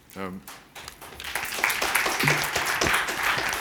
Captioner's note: applause